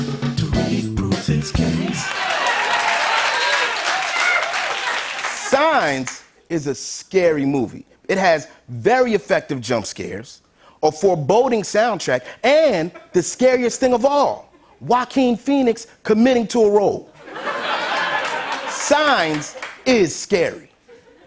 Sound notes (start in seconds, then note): 1.7 cheers and applause; 17.1 laughter